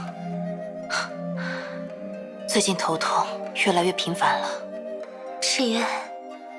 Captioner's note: sigh